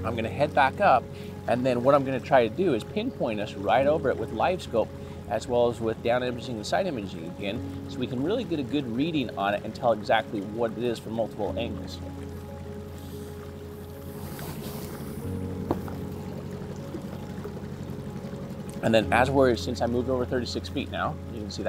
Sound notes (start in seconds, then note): 11.9 water bubbling; 13.4 boat engine revving